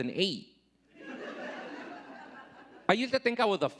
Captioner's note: audience laughing